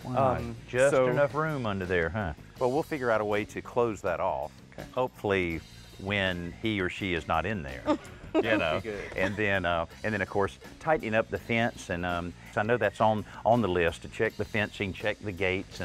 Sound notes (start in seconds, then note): 7.8 chuckles